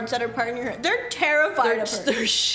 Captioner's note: terrified